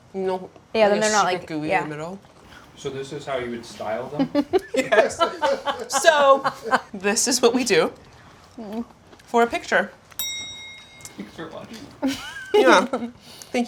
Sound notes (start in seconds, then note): 4.1 both laughing; 10.2 bell dinging